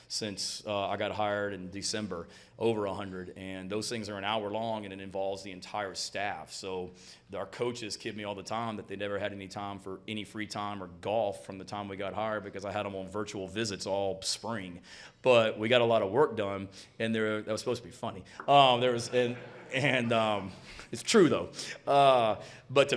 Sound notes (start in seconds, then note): 18.8 audience laughing; 21.9 chuckles